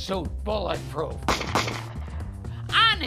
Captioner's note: gunshot